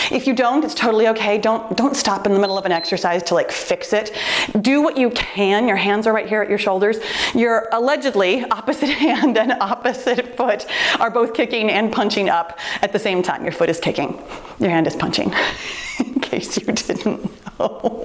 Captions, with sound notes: If you don't, it's totally okay. Don't, don't stop in the middle (timer beeps) of an exercise to like fix it. Do what you can. Your hands are right here at your shoulders. Your allegedly opposite hand and opposite foot are both kicking and punching up at the same time. Your foot is kicking, your hand is punching. (laughs) In case you didn't know.